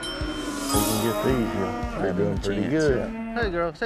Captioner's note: all chattering